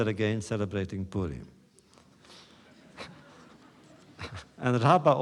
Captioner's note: laughter